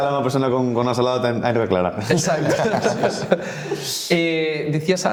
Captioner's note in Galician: risas